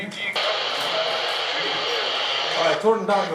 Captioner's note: radio crackling